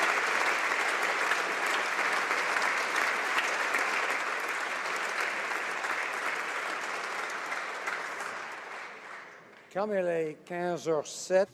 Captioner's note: applause